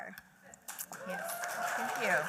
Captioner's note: applause